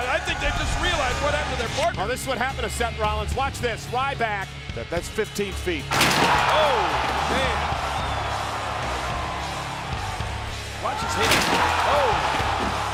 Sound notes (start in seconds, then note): 7.7 crowd cheering